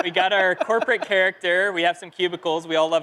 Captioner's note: laughter